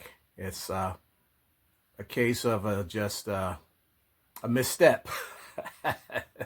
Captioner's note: laughs